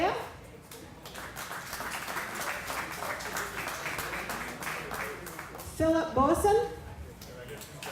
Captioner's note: applause; applause